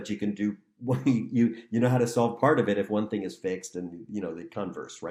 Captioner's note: laughter